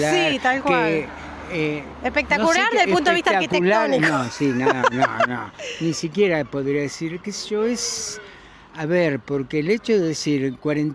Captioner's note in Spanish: risas